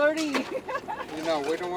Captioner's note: laughing loudly